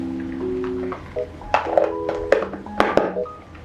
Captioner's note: sound of the treat jar closing